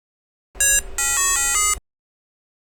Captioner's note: beeping